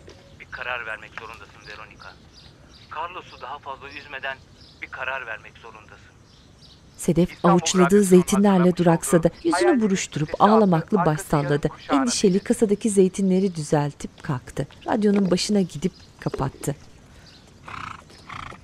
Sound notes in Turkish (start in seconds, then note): 13.2 Kuş sesi; 14.5 Ayak sesleri